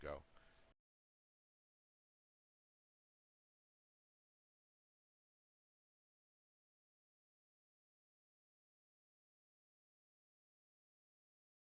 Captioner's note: audio drops